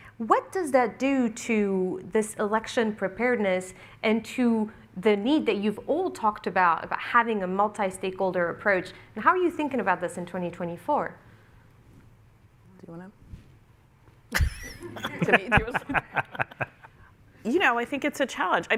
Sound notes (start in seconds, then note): 14.3 laughter